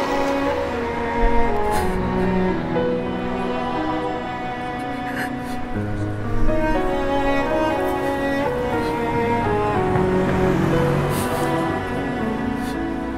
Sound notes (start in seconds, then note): 5.3 crying; 7.4 gentle orchestral music